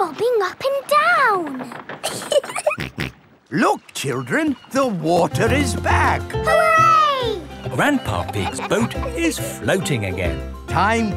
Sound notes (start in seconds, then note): 2.0 giggling; 2.3 snorts